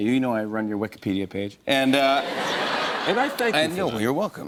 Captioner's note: laughter